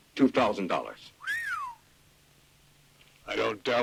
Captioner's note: Lucky whistles